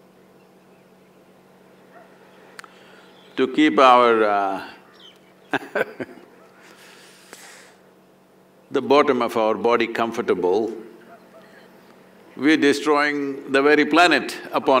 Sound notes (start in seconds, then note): 5.4 laughs